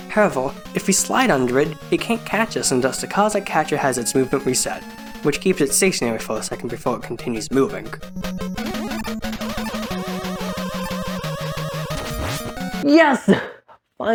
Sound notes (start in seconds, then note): 7.9 sounds of gameplay